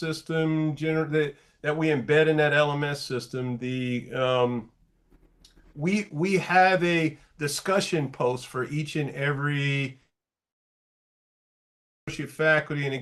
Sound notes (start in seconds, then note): 9.3 connection hiccup